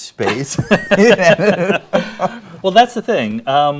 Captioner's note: both laughing